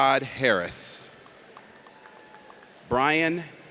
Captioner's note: audience applauds